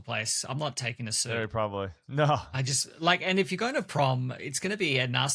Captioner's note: laughs